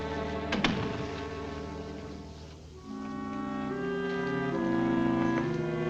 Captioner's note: building door thuds shut